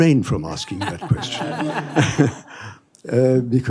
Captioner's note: laughter